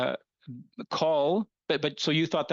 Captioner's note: speaking French